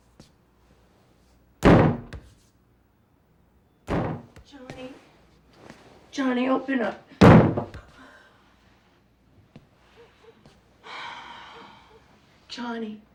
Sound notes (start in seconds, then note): 1.6 bang on door; 3.8 bang on door; 7.2 banging; 10.8 sighs